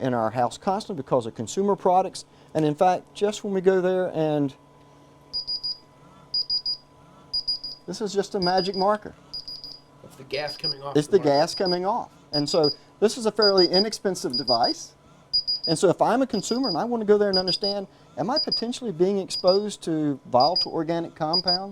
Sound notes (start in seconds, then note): 4.9 beeping